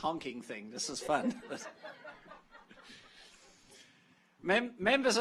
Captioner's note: audience laughs